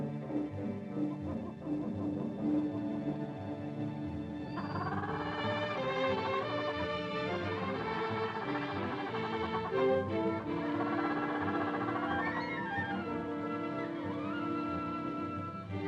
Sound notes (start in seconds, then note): 0.0 ominous music; 4.7 bird hoots; 4.7 ominous music; 15.7 dramatic music